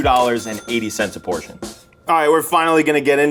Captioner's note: cash register dings